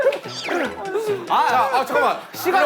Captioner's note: llorando